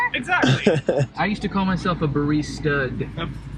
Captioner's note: cameraman laughing